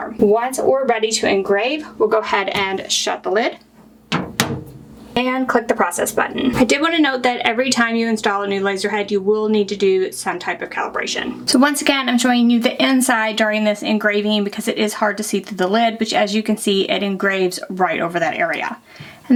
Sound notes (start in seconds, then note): 4.0 lid shuts